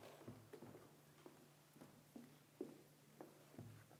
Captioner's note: foosteps